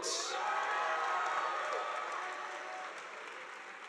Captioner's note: audience applauding